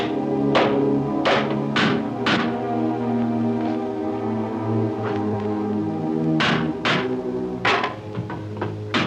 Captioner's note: hammer bangs